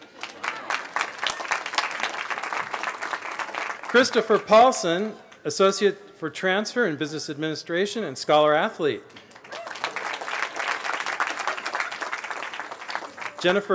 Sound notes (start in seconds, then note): 0.0 laughter; 2.8 applause; 11.1 applause